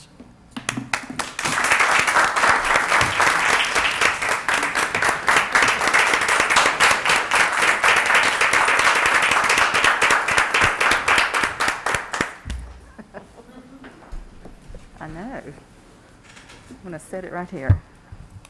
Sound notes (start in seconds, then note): 4.1 applause